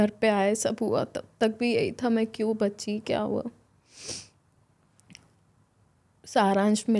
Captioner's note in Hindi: नाक से की जाने वाली आवाज़